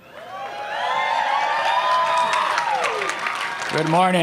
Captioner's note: applause